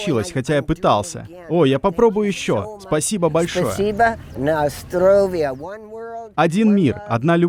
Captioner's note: in Russian